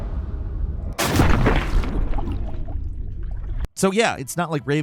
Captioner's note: metal clanks; water splashing; air bubbles popping